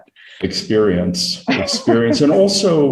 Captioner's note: laughing